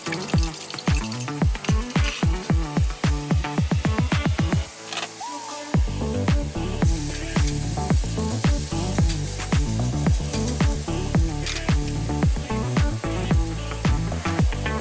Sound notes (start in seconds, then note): none